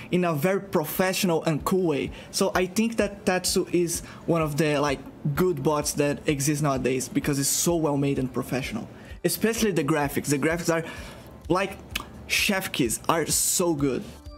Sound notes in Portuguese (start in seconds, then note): 11.9 som de beijo